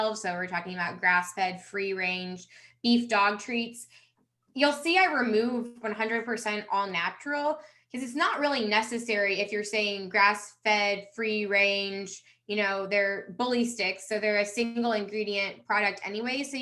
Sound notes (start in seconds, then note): none